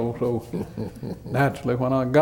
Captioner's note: laughter